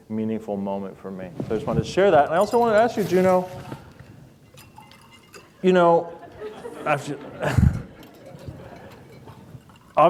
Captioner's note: laughter